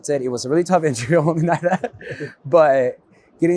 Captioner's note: laughs